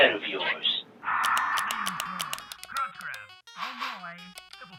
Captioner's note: clicking; electronic music